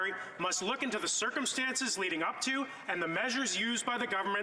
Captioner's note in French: voix de l'interprète